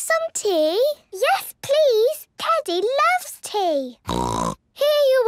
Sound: snort

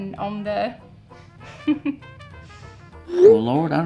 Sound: woman chucking

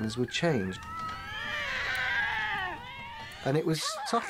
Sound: kittens mewling

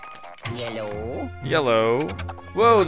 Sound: voiceover

